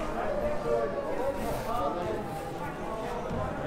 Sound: crowd noise

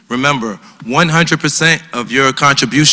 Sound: none

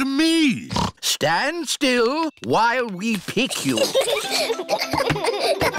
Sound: snorts; children giggle

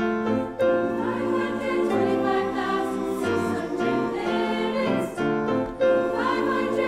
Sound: high voices

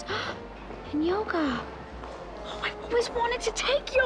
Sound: gasps

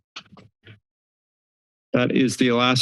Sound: silence

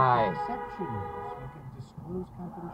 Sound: passing car honking

